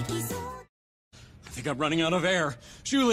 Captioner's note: gasp